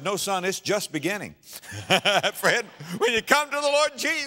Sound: audience laughter

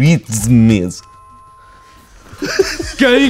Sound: door bell rings; everyone else laughing

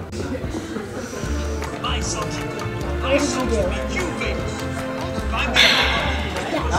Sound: people talking in background

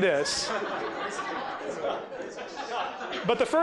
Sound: laughter

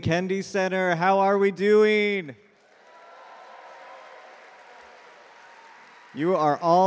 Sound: audience cheer and clap

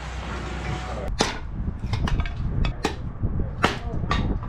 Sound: wood splitting sounds

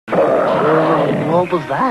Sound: growling noise

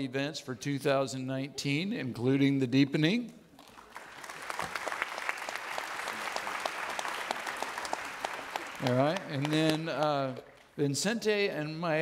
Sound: audience laughing

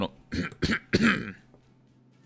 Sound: cough

